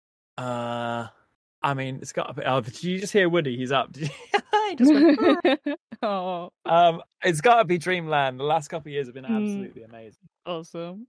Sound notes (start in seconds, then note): 3.9 laughs; 6.1 ooo'ing